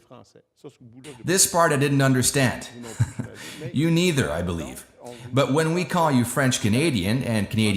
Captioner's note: laughs